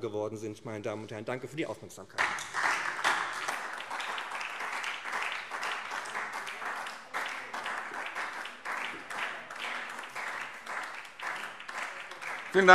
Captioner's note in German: Beifall SPD